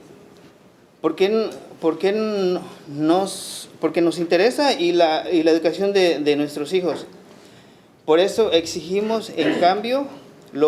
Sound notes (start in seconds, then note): 1.4 speaking Spanish